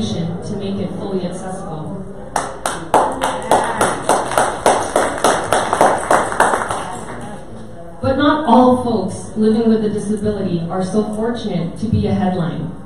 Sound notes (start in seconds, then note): 2.4 audience applause